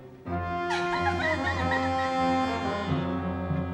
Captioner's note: runs away crying